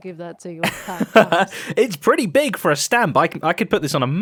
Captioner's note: laughs